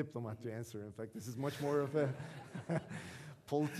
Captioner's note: audience laughing